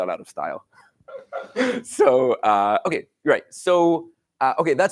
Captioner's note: laughs